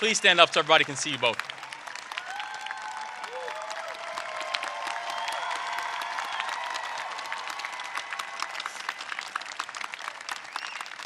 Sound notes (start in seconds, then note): 7.2 applause